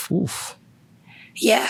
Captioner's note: exclaim sigh